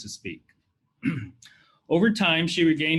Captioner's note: clears throat